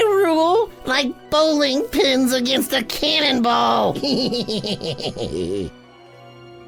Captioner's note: laughs